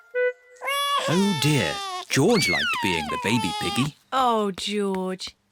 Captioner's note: bawls